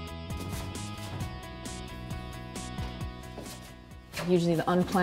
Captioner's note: brush strokes